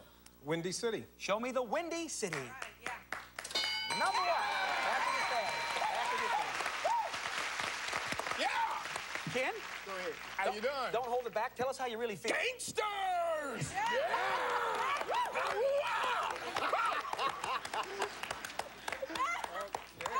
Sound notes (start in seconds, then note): 6.6 cheers and applause; 17.7 applause